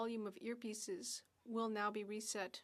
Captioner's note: speaking French